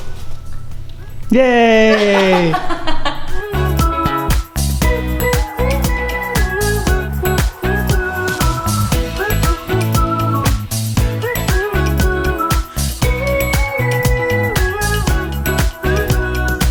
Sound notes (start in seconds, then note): 1.4 laughs; 3.5 upbeat music